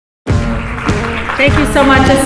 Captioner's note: applause